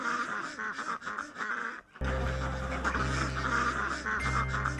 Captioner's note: geese clucking